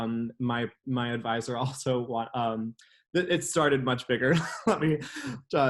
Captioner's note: laughs